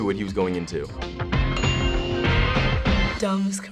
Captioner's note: sparkle glimmers